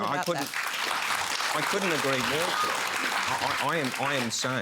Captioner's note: applause